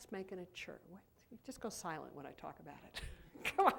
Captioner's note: laughs